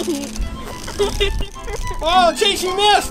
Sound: girl giggles

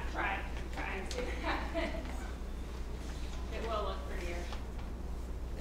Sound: laugh

